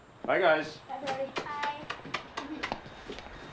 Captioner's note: both chuckling; smooching